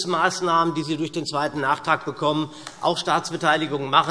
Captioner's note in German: none